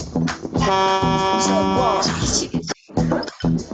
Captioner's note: horn honking; dramatic music